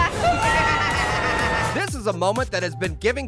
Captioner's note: people screaming